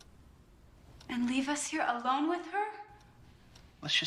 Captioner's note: echoing